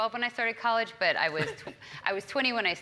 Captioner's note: laugh